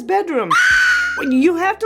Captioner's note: kid screaming